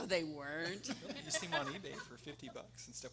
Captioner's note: everyone laughing